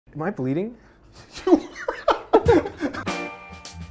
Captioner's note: laughing; upbeat Music